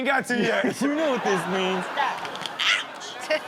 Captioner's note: audience laughs